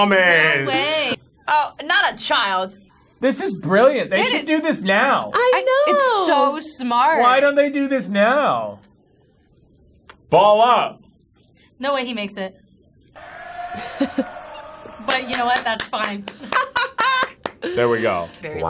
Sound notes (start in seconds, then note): 16.4 hands tapping